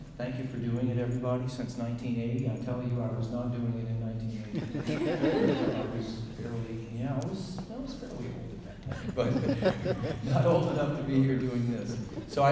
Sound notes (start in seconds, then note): 4.4 audience laughing; 8.8 audience chuckling